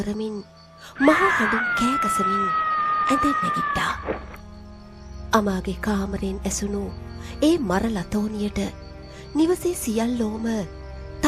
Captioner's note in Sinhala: කෑ ගැසීම